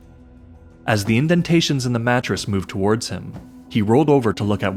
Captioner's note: patting on fabric